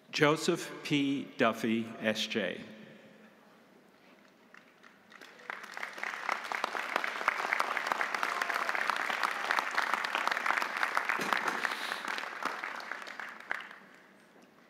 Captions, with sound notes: Joseph P. Duffy, S.J. (audience applauding)